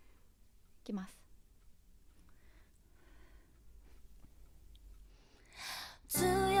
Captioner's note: singer speaking Japanese; singer singing in Japanese